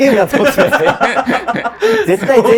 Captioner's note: laughing